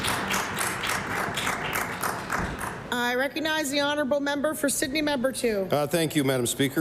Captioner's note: applause